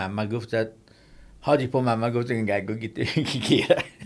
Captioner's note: laughs